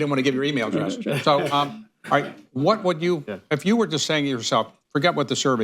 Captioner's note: laughter